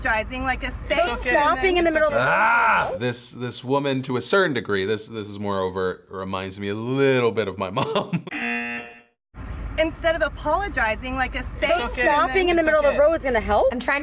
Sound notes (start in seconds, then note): 7.7 chuckles; 8.3 buzzer